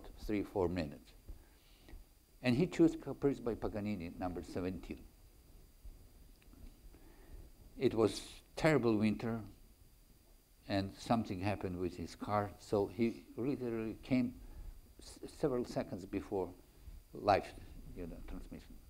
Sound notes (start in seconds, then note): none